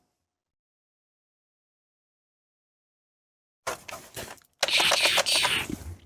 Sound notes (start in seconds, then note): 4.6 vile pew pew noises